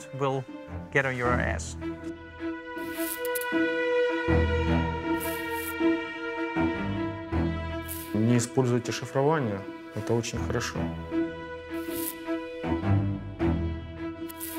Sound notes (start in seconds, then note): 4.0 suspenseful music; 8.6 speaking in Ukrainian